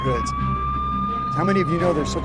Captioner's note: sirens wailing